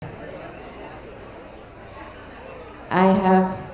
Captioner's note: light chatter